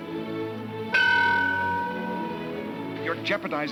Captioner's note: bell rings